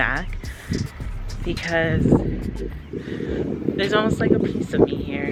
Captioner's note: wind whooshing